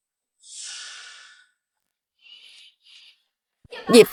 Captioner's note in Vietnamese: thở dài